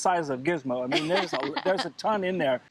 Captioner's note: laughing